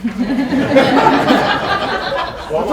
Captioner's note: laughter